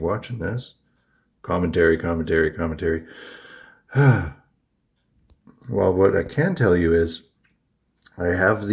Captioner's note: huffs